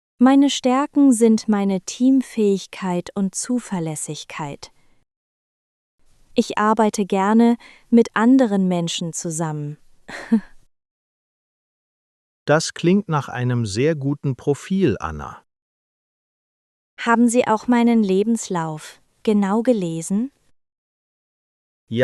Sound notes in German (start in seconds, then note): 10.1 lacht